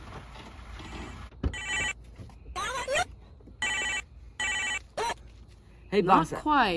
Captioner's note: phone rings; voice over phone